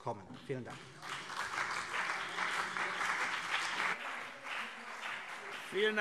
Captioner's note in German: Beifall CDU und BÜNDNIS 90/DIE GRÜNEN